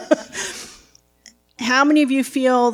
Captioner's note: laughs